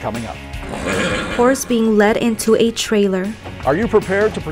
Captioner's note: horse neighing